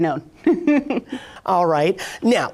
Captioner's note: chuckles